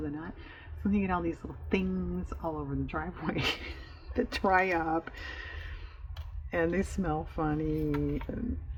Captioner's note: laughs